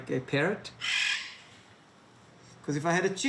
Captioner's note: parrot squawks